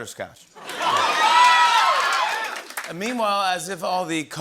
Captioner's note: cheers